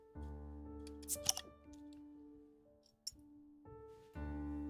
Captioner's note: beer popping